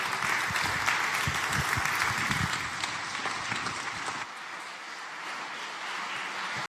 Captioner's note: applause